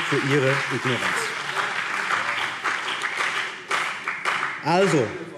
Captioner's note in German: Beifall BÜNDNIS 90/DIE GRÜNEN